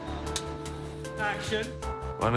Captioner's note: clapboard snapping